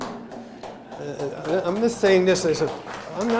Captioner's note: laughter; scattered applause